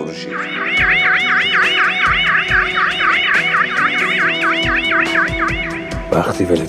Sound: police car siren

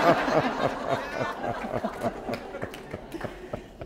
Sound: laughter

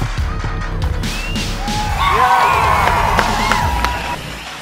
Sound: cheering

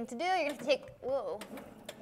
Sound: board humming

